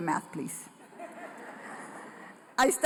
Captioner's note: laughter